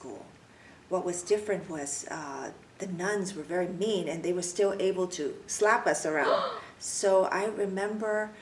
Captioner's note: gasps